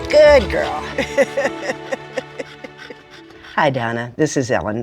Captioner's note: laughs